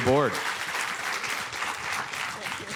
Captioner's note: applause